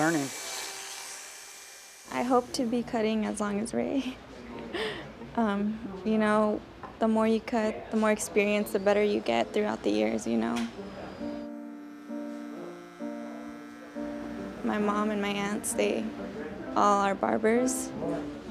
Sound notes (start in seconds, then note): 3.7 chuckles; 11.2 buzz